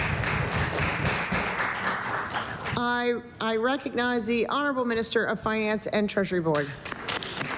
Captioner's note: applause